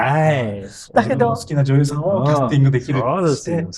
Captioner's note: laughs